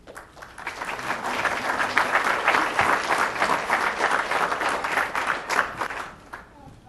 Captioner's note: applause